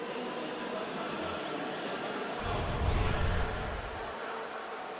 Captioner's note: announcer on pa